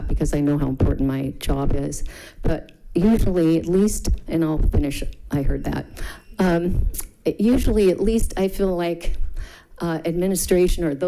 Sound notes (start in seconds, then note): 5.4 alarm buzzes